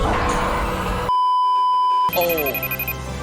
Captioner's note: beeeeeeeeeeeep